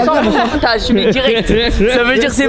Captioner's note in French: rire